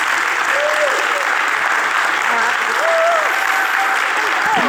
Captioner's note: audience cheering